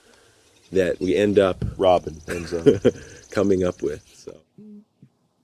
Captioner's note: laughs